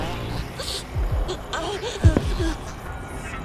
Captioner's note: demonic Laughter; whimpering